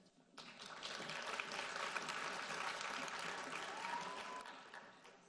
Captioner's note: audience applauding